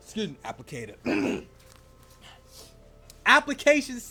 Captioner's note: clears throat